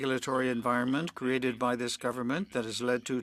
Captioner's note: speaking French